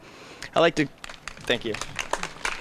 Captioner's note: applause